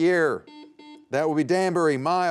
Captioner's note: buzzer beeping